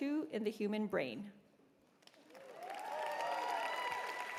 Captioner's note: cheers and applause